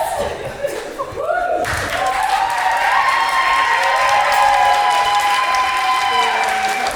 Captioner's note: cheering and applause